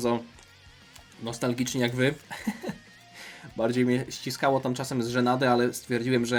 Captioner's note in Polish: śmiech